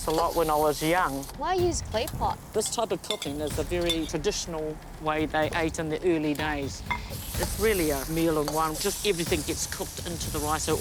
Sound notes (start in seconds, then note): none